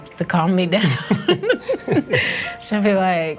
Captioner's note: laughing